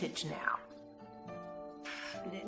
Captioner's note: scoffs